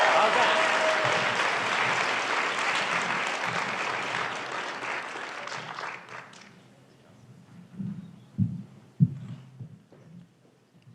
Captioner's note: applause